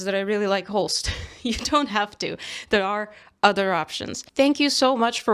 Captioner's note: laughs